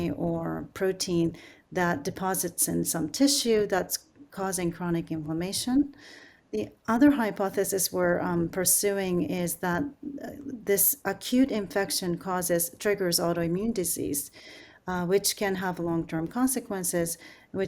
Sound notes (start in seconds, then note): none